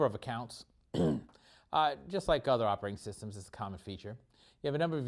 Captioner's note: cough